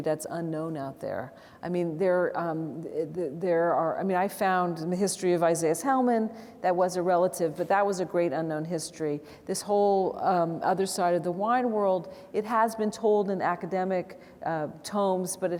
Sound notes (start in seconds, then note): none